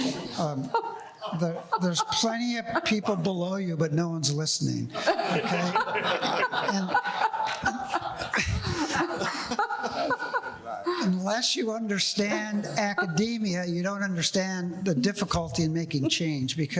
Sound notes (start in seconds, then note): 0.0 panelists laughing; 4.9 panelists and audience laughing